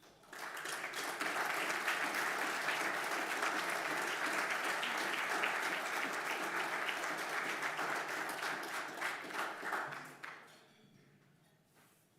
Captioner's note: applause